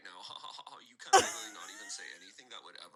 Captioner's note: laughs